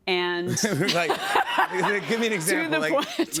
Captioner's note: laughter